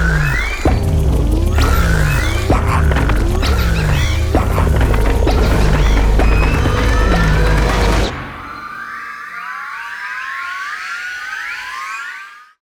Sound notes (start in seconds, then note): 0.2 various animal sounds; 2.0 buzzing; 2.0 squawks; 3.3 screeches; 3.3 trilling; 4.3 buzzing; 4.3 howling; 5.3 shrieking; 5.3 thunder crashing; 7.1 roars; 8.0 various animal sounds